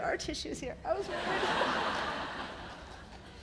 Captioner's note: laughter